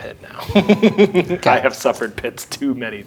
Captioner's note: laughing